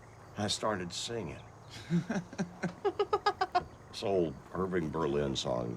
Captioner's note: both laugh